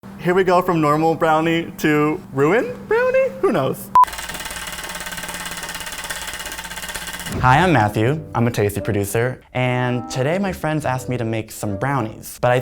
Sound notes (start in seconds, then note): 4.0 wheel clicking